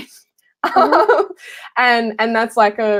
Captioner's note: laughing